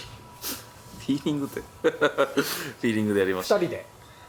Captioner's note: laughs